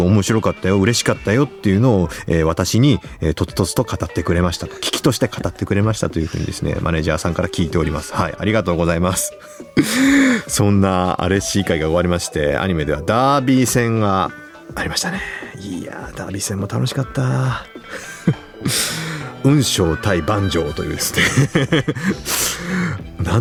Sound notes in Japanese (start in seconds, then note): 9.4 息をのむ音; 9.6 笑い; 20.9 笑い